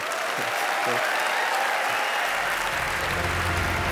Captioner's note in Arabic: تصفيق